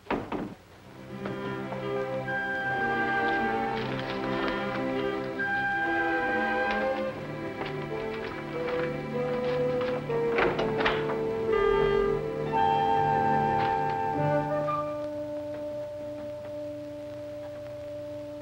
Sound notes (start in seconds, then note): 0.0 door closing; 2.9 soft orchestral music; 10.5 door closing; 14.7 soft orchestral music